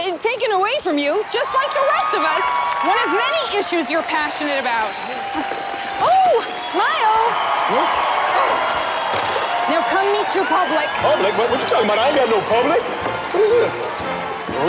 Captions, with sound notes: - Taken away from you, just like the rest of us. (crowd cheering) One of many issues you're passionate about. (crowd cheering) Oh, smile! (crowd cheering) Now, come meet your public. - Public. What you talking about? I don't know no public. What is this?